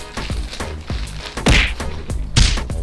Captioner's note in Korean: 퍽!